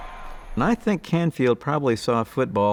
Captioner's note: crowd cheering